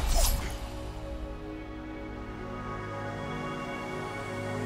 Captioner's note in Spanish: efectos de sonido de viento y naturaleza